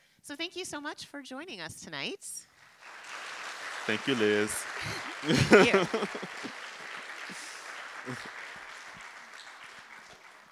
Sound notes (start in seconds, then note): 2.4 audience claps; 4.6 chuckle; 6.6 audience continues to clap